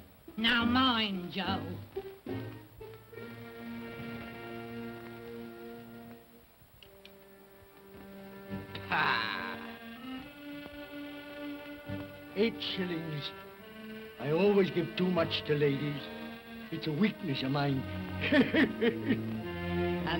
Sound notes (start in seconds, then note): 8.7 scoffs; 18.2 laughs